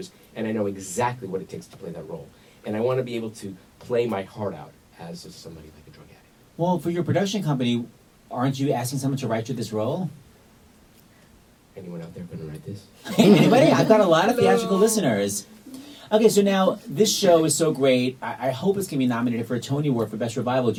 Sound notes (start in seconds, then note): 13.0 laughs